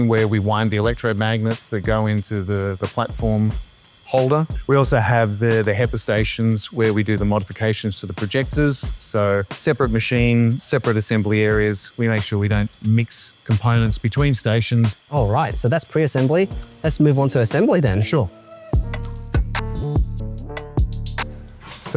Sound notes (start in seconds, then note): 18.9 electronics beep; 19.7 uplifting music continues